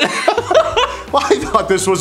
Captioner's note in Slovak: smiech